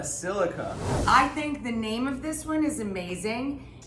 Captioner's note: air whooshing